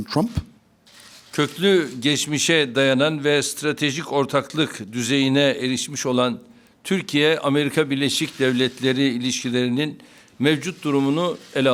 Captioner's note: speaking Turkish